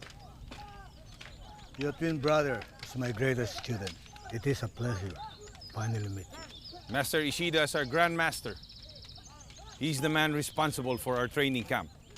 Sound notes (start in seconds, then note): none